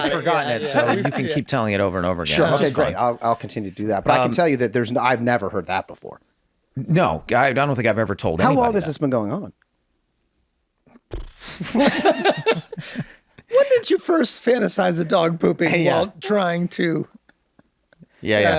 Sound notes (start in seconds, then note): 11.4 laughing